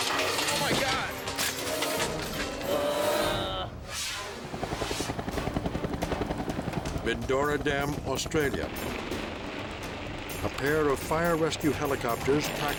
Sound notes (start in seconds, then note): 2.4 light dramatic music; 2.6 groans; 4.2 tense music; 4.3 helicopter whirring